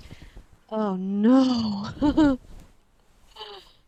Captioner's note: laughs nervously